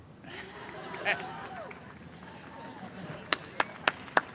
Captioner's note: cheering and applause